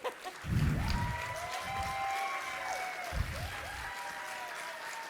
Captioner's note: audience applauding and cheering